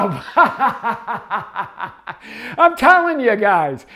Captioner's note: laughing heartily